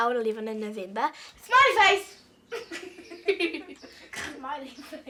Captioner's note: laughs